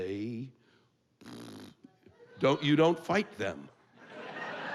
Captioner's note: blows raspberry